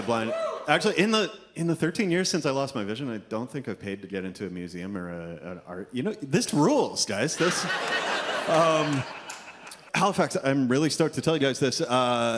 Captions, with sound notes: Actually, in the in the 13 years since I lost my vision, I don't think I've paid to get into a museum or art... You know, this rules guys. (audience laughs) Halifax, I'm really stoked to tell you guys this.